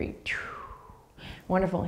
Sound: exhaling breath

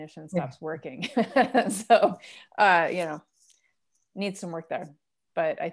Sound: laughter

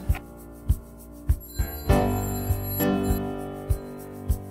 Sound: door bell ring

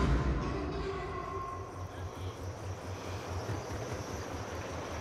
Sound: engine motor running

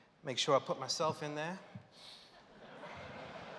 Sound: laughter

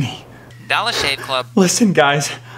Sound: phone

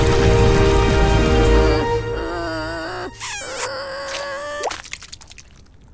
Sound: groaning

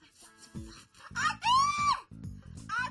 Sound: yells

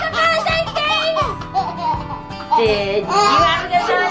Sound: laughs

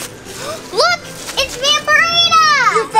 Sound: gasp

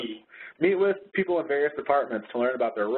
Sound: voiceover

